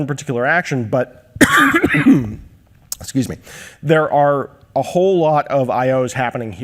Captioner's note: coughs